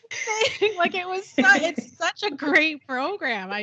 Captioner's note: both giggling